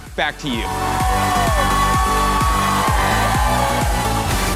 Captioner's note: students cheering